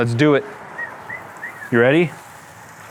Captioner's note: whistles